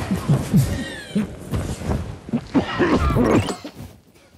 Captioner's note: sumo suits rustling; coughing